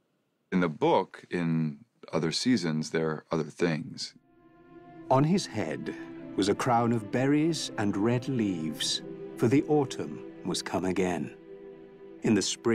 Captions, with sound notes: In the book, in other seasons, there are other things. [NARRATOR READING ON-SCREEN TEXT]